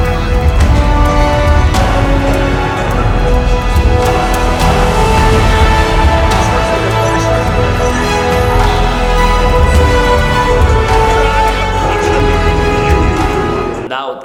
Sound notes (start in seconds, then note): 0.1 triumphant music; 12.5 laughs; 12.9 triumphant music